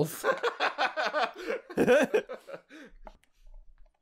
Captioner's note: laughter